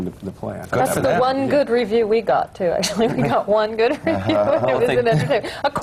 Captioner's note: laughs